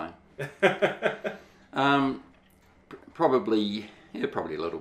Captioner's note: laughing